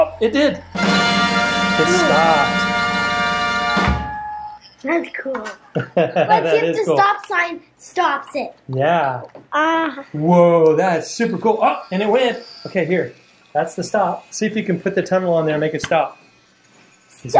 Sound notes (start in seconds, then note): 5.6 laughs